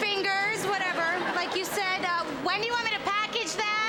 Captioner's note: audience laughs